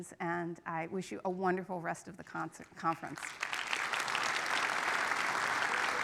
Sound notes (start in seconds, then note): 3.2 audience applauding